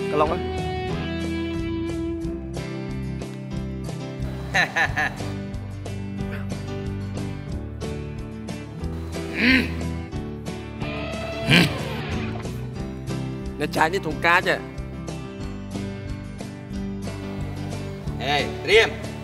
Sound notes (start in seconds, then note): 4.4 evil laugh